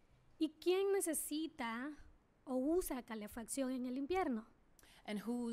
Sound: speaking spanish

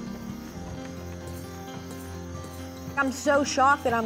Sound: spurs jangling

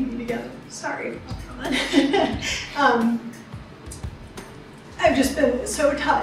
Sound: laughs

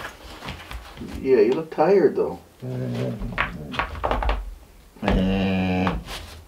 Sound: dog grumbles

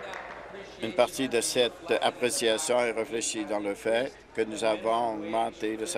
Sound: applause

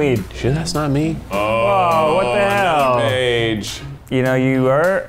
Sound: collective chatter

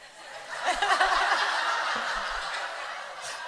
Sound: laughter

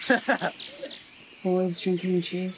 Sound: laughing

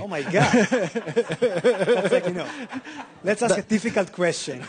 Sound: audience laughing

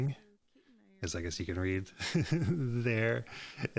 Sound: chuckles

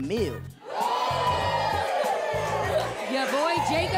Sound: audience groans

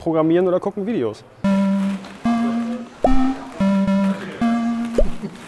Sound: alle lachen

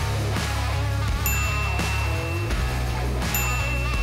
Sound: rock music continues; bell dinging

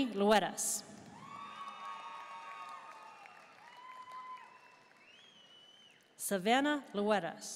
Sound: audience cheering and applauding

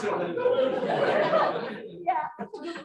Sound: laughter

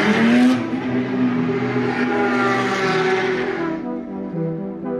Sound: engines roaring

